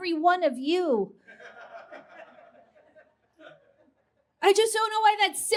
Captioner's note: quiet laughter from audience